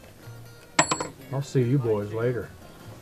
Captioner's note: metal clatters